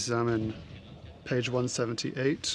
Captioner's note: speaking french